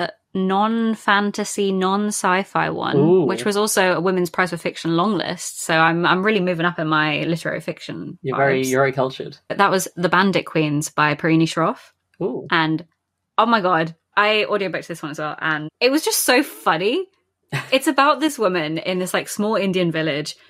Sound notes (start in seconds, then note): 17.5 laughs